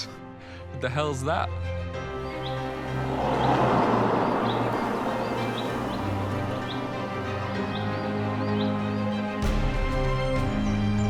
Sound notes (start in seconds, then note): 1.7 birds chirping; 2.0 car whooshing